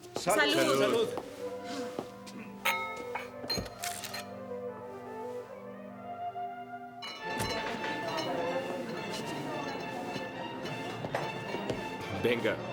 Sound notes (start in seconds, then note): 2.6 glasses clinking; 3.0 camera shuttering; 7.2 guests chattering; 8.0 classical music